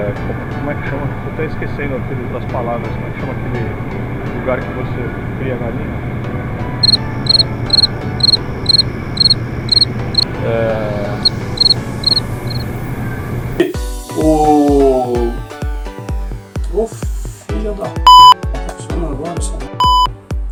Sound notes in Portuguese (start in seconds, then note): 6.8 cri cri; 11.2 cri cri